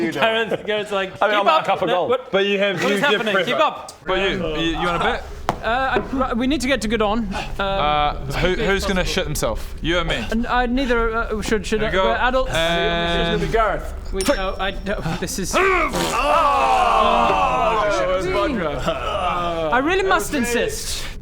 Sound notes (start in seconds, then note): 15.6 hrrghg; 15.9 pfffpt